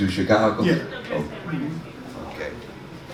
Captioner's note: woman murmuring